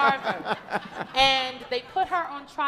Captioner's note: audience laughing